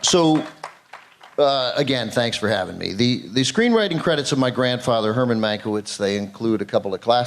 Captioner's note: applause